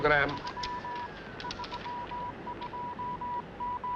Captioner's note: radio Morse code sound